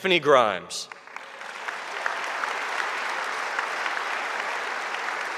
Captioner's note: audience applauding